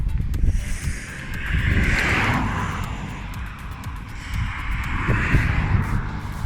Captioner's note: traffic